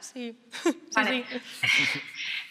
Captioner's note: laughs